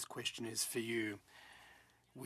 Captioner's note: speaking French